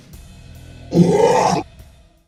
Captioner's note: growl